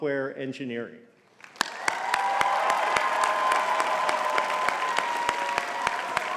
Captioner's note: audience cheering and clapping